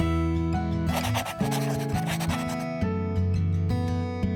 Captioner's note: pen scratching; pleasant music